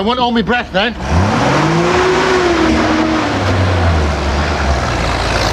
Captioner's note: engine roaring